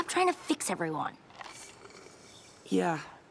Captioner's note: more slurps